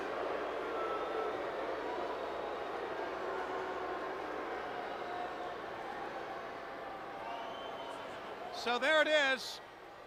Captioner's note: crowd chatter